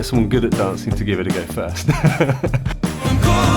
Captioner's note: laughs